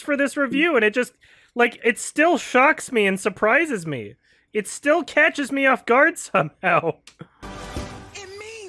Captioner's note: chuckles